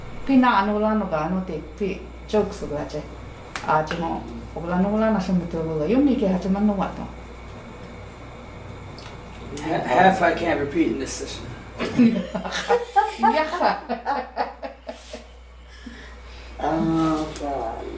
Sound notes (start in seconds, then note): 11.8 laughing